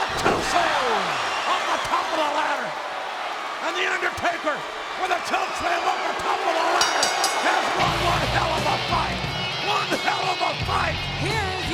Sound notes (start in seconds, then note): 6.7 bell ringing